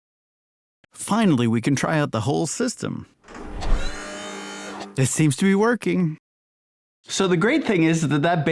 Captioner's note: whir